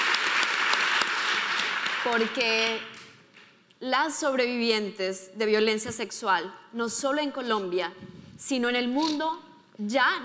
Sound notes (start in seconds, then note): 2.2 speaking in foreign language